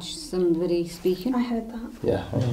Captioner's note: quiet humming